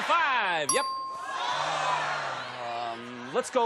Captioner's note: audience clamoring